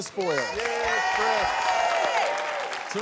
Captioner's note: cheering, applause